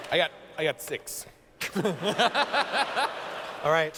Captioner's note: laughter